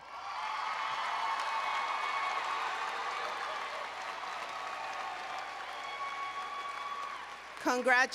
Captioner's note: applause and Cheering